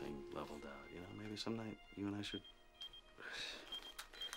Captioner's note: beeper chiming